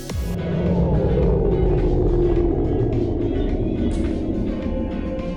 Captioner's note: power shuts dows; shimmering